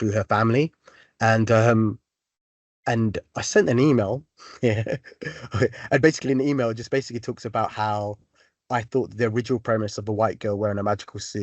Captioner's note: chuckle